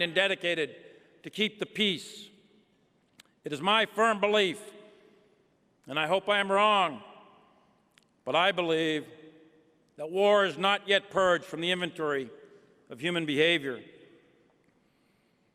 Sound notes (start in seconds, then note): none